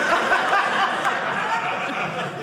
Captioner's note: audience laughing